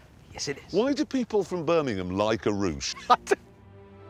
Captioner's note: laughs